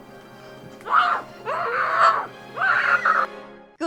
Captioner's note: screams